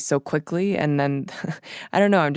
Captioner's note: chuckles